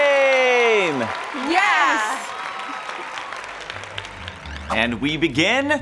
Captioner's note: crowd cheering